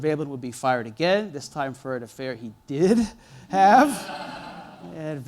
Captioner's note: laughter